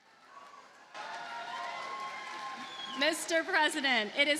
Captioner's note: audience cheers and applauds